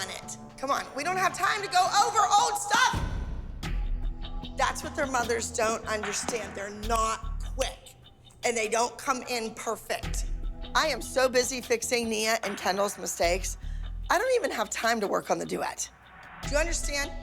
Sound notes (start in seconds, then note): 6.0 snapping